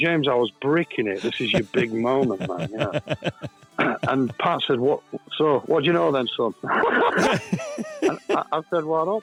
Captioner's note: laughs